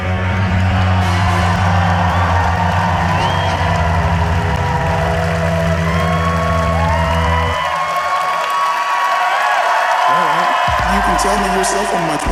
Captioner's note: applause and cheers